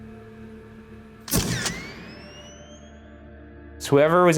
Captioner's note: camera shuttering